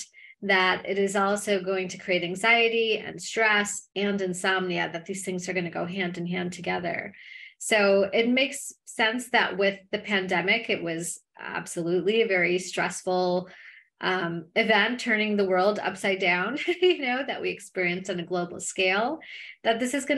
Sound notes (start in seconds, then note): 16.6 laughter